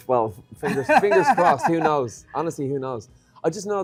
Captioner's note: laughs